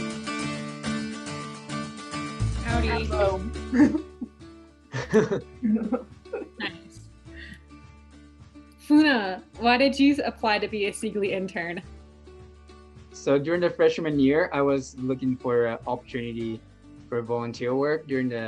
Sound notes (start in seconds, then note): 0.1 music volume lowers; 4.9 laughing